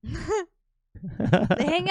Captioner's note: laughing